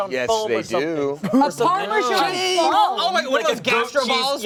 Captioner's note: overlapping chatter